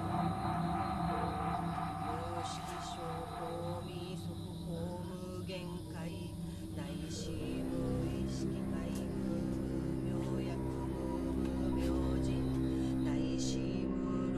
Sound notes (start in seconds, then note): 3.1 chanting